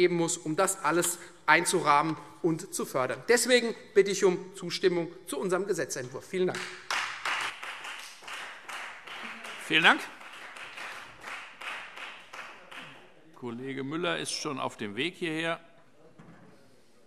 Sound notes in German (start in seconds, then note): 6.5 Beifall Freie Demokraten